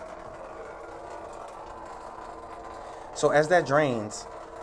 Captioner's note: draining